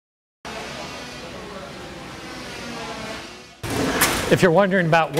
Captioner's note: machinery clatters; saws grind